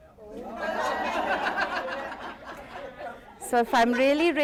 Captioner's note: laughter